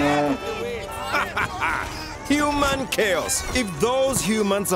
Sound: cows mooing; laughing

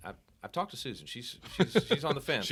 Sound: laughing

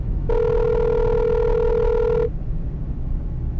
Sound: phone rings

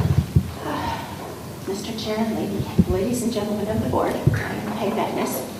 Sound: sighs

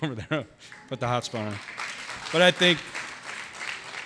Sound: audience applause

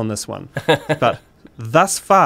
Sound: laughing

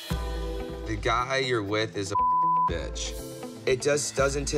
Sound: beep

